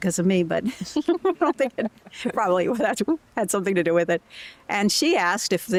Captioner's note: laughter